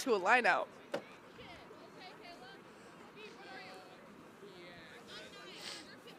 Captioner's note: onfield chatter